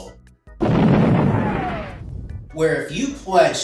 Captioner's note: cannon firing and booming